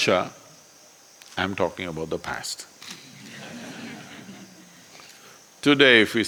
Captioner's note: laughter